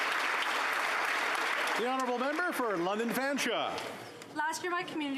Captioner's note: applause